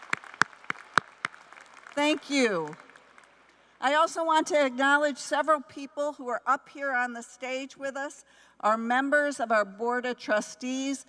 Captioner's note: applause